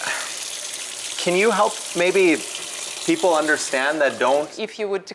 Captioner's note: sighs